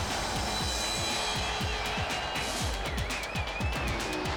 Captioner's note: audience cheers